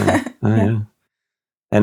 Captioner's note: laughing